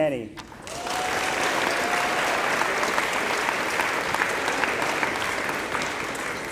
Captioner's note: applause